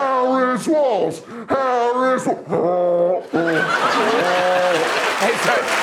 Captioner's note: laughter and applause